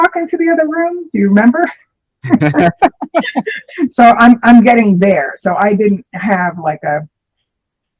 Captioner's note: laughter